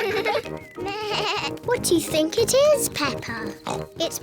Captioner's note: bleats; oinks